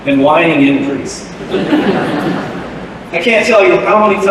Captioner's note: laughter